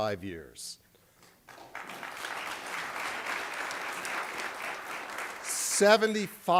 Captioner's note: applause